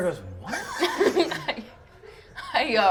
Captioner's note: laughter